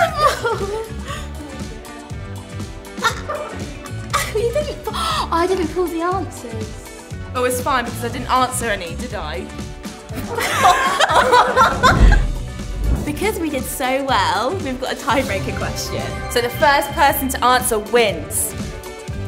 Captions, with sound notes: I didn't pull the answers. Oh, it's fine. Because I didn't answer any, did I? (laughs) Because we did so well. We've got a tie breaker question. So the first person to answer wins